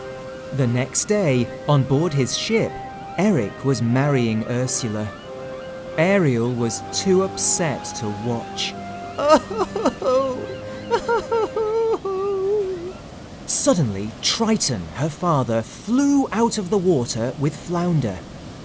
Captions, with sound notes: The next day on board his ship, Eric was marrying Ursula. Ariel was too upset to watch. (Sobbing) Suddenly Triton, her father, flew out of the water with Flounder.